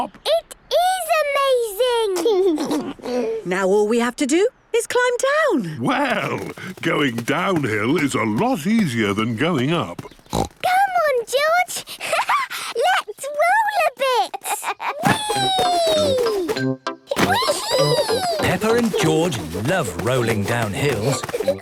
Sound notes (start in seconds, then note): 2.2 George giggles; 10.0 snorts; 14.1 laughs